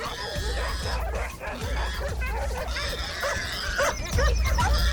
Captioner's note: boar squealing; dogs barking